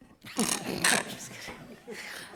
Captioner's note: directors laughing